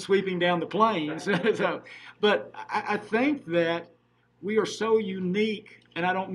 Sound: laughing

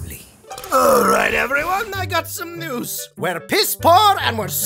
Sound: burps

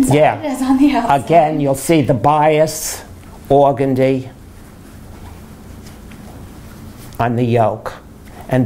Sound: laughs

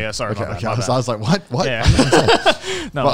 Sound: laughing

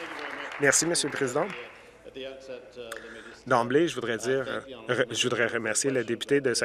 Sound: applause

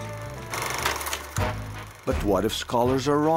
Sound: fast-forwarding tape sound

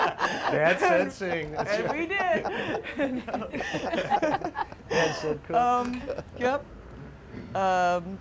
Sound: laughs

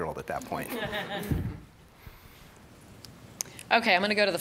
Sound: audience laughing

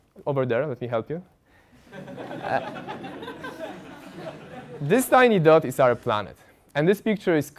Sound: laugh

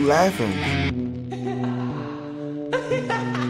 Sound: sinister giggling

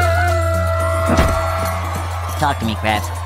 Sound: car door closing

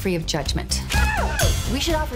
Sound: cheering

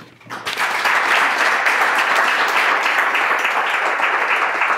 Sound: clapping

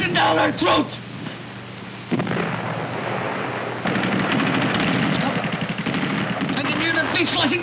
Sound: explosion, machine gun firing

